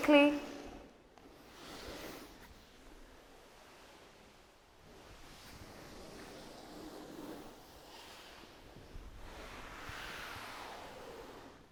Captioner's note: rustling sounds